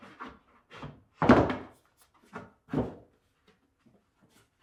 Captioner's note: wood bangs